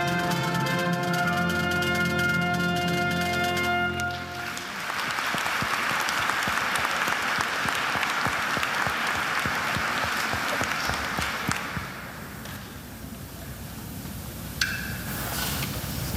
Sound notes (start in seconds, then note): 4.0 attendees applauding